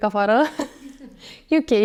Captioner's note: laughs; girls giggle